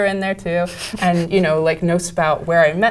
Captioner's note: laugh